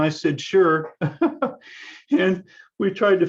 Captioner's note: laughs